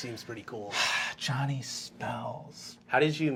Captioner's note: sighing dreamily